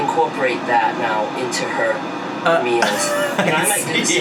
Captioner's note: laughs